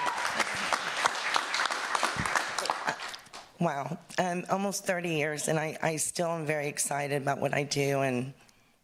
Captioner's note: cheering and applause